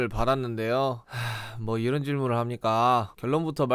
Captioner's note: sigh